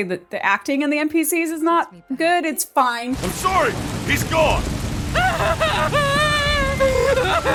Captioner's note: woman weeps